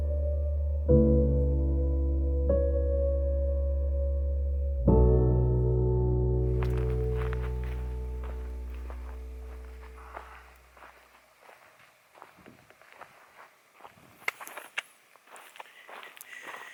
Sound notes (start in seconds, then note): 7.8 footsteps in gravel